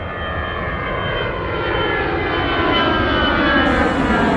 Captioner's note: plane engine whirring